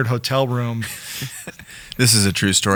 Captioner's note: laughing